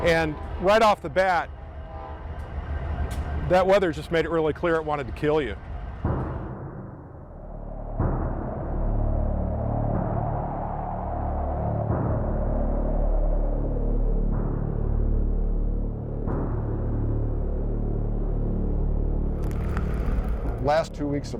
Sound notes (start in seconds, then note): 7.2 sound of wind blowing and drum beating